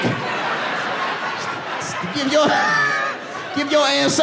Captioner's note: audience laughing; laughs